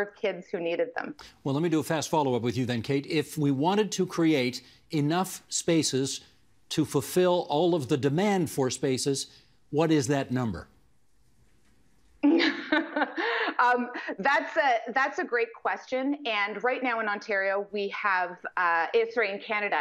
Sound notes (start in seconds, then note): 12.2 laughing